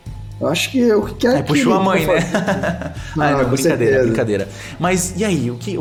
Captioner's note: laughing